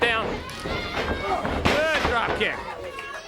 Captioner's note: crowd cheering